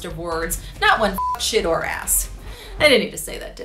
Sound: beep

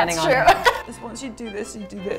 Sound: laughing

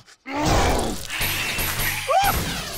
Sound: screeching

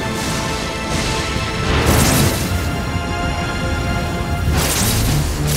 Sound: lightning zapping

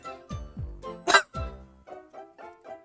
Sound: coughing

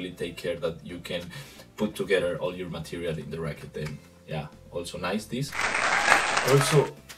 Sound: clapping

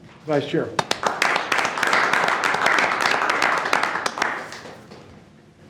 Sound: board members clapping

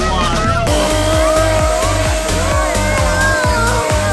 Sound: dad groaning

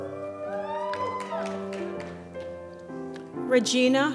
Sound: applause

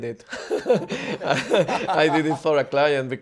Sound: group laughing

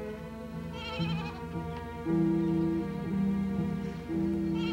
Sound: bleating

